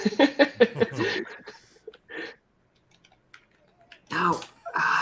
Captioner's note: laughter